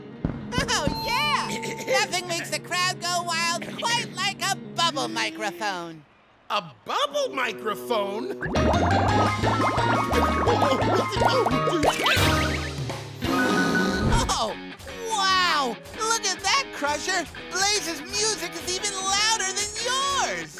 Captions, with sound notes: Oh yeah! Nothing makes the crowd go wild quite like a bubble microphone! A bubble microphone? [yelling] Oh wow, look at that Crusher, Blaze's music is even louder than yours!